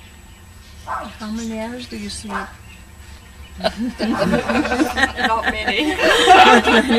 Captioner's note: laughter